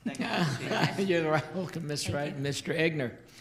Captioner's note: all laughing